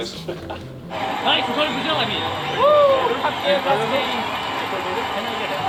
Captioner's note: crowd cheering